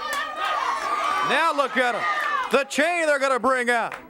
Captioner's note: crowd cheering